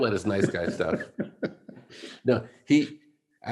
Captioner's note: laughs